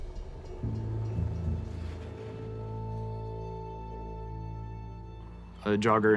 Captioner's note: somber music; horse gallops